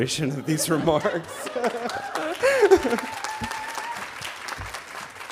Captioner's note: audience applauding